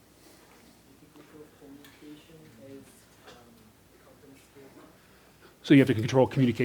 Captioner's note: voiceover